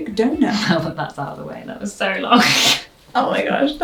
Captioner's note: laughs